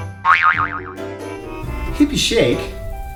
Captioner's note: boing sound